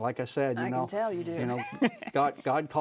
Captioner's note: laughs